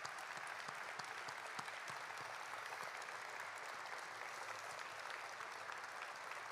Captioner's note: applause